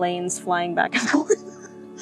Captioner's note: laughs